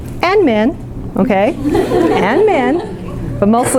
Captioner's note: laughing